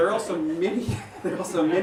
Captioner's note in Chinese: 笑场